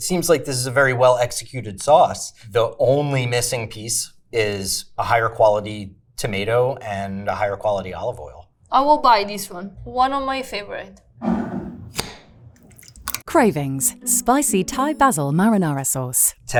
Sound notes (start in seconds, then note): 11.2 jar scraping; 12.5 sauce sloshing; 12.6 jar cap clacking